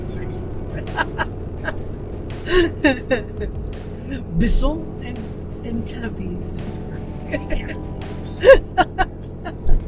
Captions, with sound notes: [LAUGHTER] Bison and Antelopes. [LAUGHTER] Antelopes!